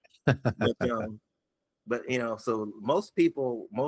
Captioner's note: laughing